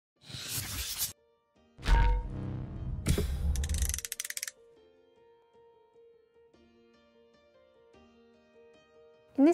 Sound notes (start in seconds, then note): 0.3 camera whooshing; 2.0 metals clang; 4.6 lighthearted piano music